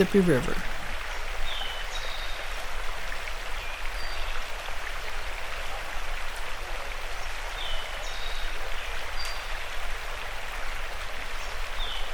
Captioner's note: water gurgling and birds chirping